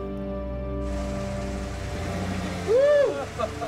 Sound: truck engine rumbling; men whooping

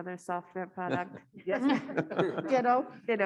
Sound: panelists laughing

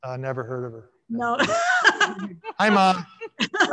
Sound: panelists laughing

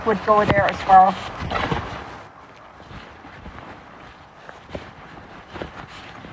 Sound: sound of rustling

